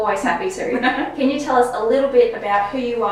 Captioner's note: laughing